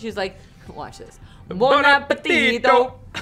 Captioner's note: italian accent